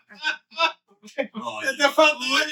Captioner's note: laughing